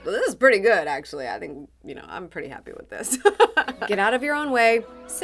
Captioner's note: laughs